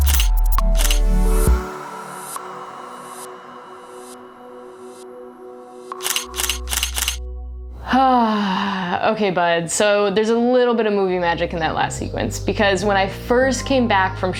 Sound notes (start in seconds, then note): 0.5 camera shutter clicking; 5.9 camera shutter clicking; 7.8 sighs